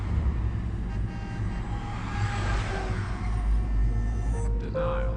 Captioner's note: car Horn